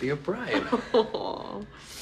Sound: chuckles

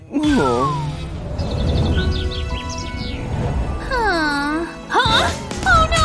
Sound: groans

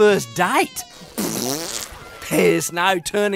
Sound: rip fart

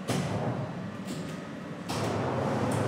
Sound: engines start up

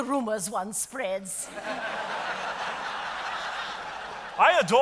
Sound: audience applauding

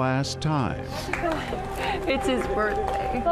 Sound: crowd applauds

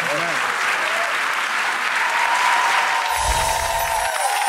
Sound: audience clapping

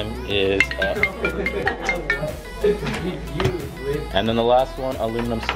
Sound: iPhone alarm ringing

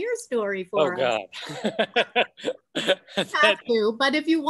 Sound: laughing

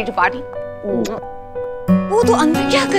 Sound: kissing sounds

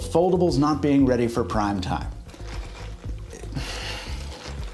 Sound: sighs

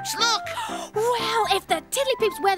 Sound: gasps

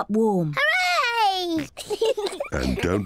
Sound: both giggle

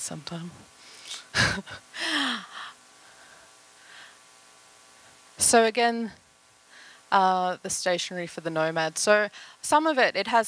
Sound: laughter

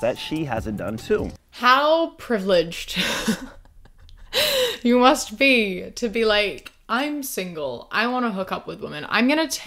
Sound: laughs

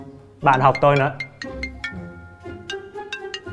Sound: phone ring

